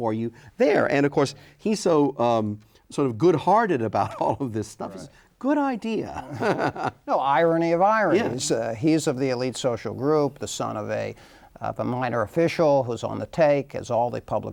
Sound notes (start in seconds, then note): 6.0 laughter